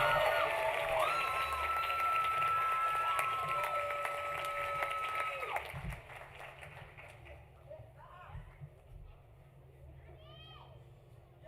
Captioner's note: cheering; applause